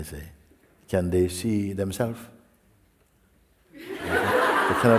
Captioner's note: laughter